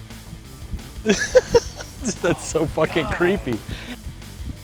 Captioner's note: laughing